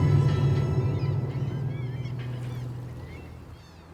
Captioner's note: seagulls squawking